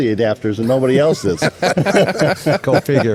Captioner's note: all laughing